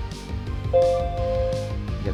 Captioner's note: bong